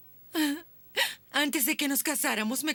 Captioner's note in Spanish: Trina soluçando